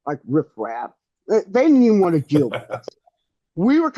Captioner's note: laughs